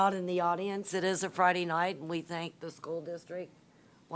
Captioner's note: none